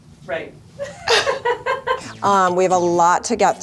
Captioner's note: producer laughs